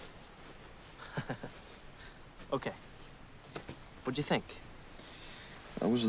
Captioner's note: laughs